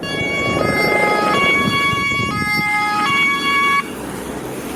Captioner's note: sirens wailing